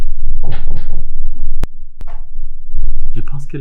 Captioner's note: knock Knock Knock